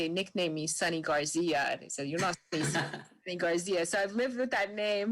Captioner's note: speaks faintly